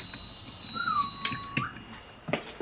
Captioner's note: whistle